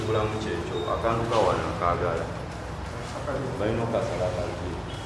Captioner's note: people speaking foreign language